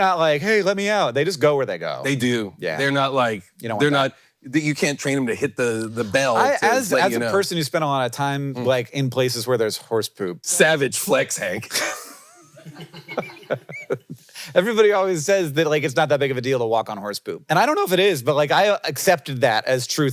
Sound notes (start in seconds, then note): 11.6 Hank laughing; 11.7 crew laughing